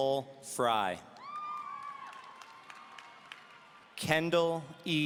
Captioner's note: audience cheering